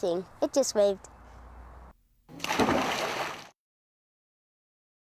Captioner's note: splash